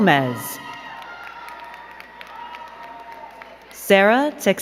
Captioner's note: crowd cheering and clapping